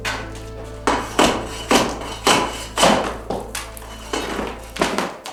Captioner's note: spade hitting floor